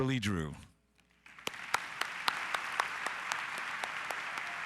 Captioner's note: audience applause